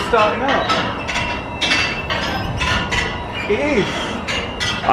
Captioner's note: chimes jingling